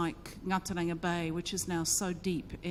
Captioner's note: speaks in foreign language